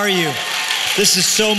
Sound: applause

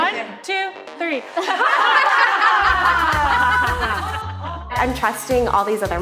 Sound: all laughing

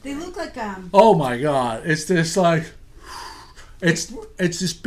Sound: voiceover

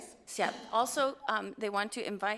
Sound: speaks foreign language

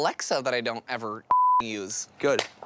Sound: beep

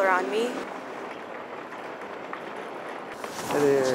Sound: cart wheels rattling

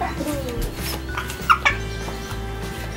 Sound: giggling

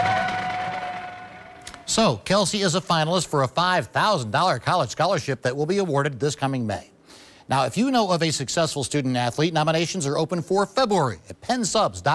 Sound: cheers

